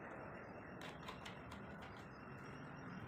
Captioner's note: birds and vehicles